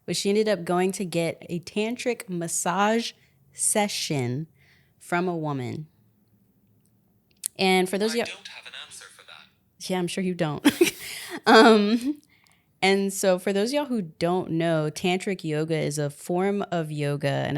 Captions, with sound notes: was she ended up going to get a tantric massage session from a woman. And for those of y'all- - [Phone Voice] I don't have an answer for that. - Yeah, I'm sure you don't. (laughs) And so, for those of y'all who don't know, tantric yoga is a form of yoga,